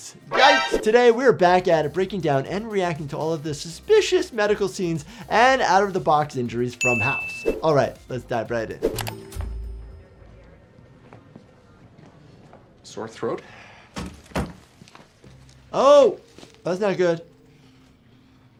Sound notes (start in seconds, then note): 9.0 air whooshing; 9.0 mouse clicking; 14.0 door clattering